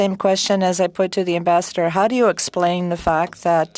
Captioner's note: speaking french